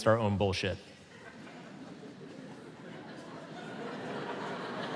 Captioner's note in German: Publikum lacht